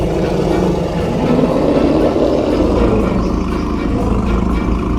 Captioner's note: dinosaurs growling